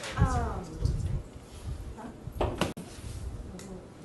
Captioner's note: background chatter